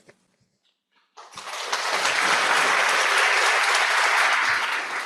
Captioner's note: audience applauds